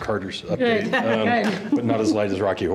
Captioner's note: board chuckling